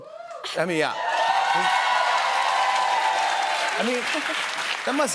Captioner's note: cheers and applause